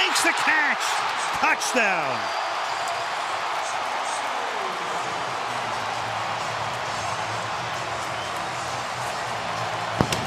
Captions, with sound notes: And he makes the catch, touchdown. [cheering] [upbeat music]